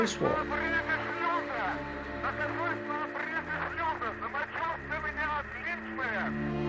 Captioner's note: cosmonauts speaking Russian